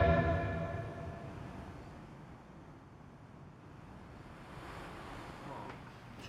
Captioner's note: ambient Traffic Noise